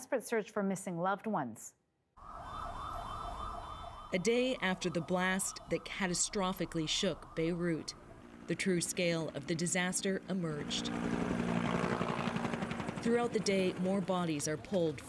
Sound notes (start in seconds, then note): 5.2 sirens